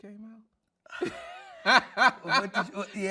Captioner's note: laughing